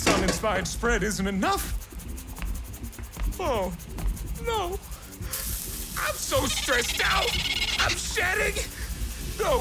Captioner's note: scratching intensifies